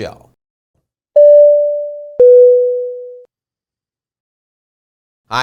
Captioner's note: chime chiming